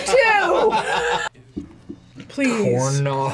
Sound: both laugh; laughs

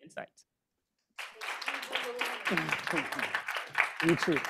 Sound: audience applauding

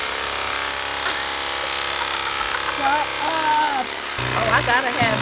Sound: laughs

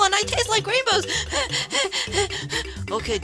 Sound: hyperventilating

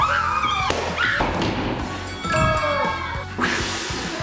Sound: screaming; upbeat music plays; balloon popping; gong chimes

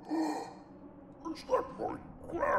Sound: gasps

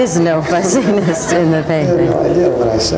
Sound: laughing; laughs

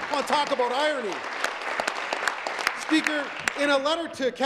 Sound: applause

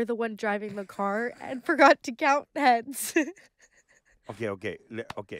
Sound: laughing

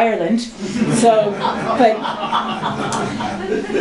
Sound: laughter

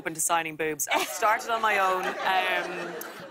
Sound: laughter

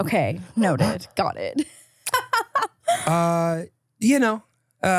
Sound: laughs

